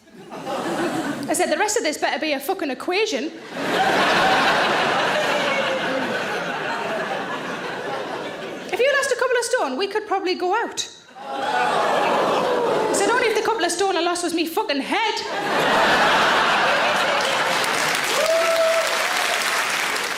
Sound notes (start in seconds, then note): 3.4 audience laughing; 11.2 audience exclaiming; 15.2 audience laughing; 15.8 audience applauding